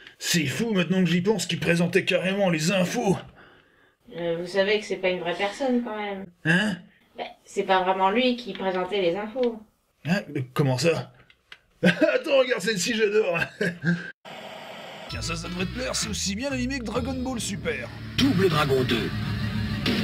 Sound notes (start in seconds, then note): 6.4 annoying background voice; 13.3 laugh